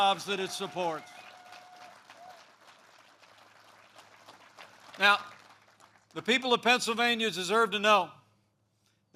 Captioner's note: applause